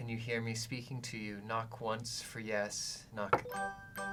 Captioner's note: knocks once; chiming